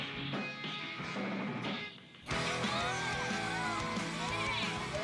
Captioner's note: all cheering